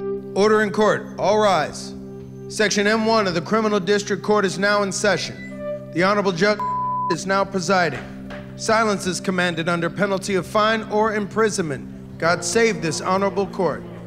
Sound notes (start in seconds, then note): 6.6 beep; 7.8 gavel tapping